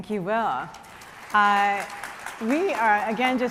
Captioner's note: audience applauding